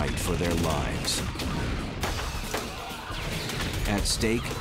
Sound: gunshots

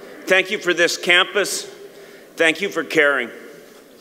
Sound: none

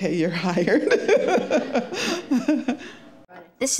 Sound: laughing

